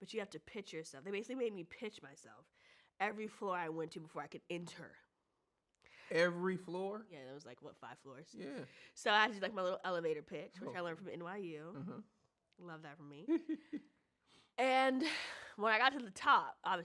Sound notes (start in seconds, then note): 13.2 chuckles